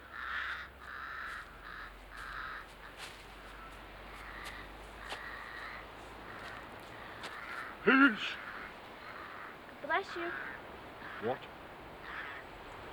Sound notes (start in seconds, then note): 7.6 Sir Simon sneezes